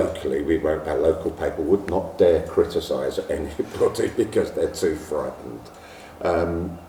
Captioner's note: laughs